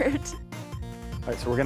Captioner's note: laughing